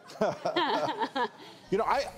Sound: laughter

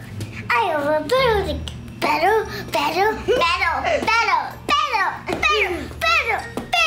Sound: yelling

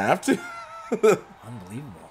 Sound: laugh

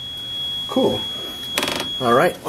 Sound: elevator door nudging tone

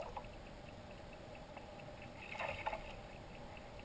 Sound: splash, splash

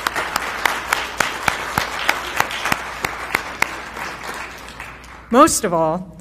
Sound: applause

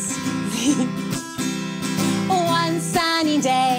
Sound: chuckles

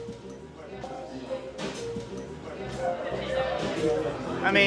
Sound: people chattering

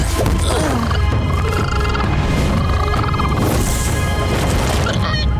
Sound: grunting; chittering

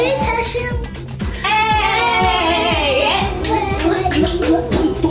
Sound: kids cheering

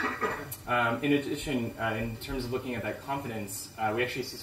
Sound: cough

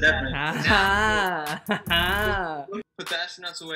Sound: laughs

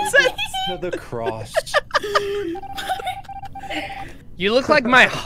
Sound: laughter

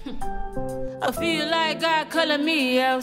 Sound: laughs

